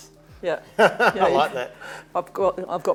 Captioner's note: laughs